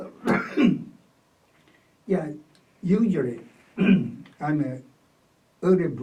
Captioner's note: coughs; clears throat